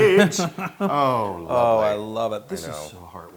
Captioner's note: laugh